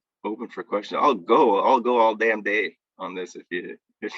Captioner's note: laughs